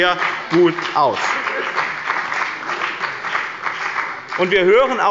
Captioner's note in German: Beifall bei dem BÜNDNIS 90/ DIE GRÜNEN und der CDU